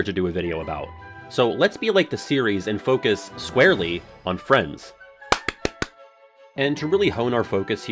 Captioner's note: claps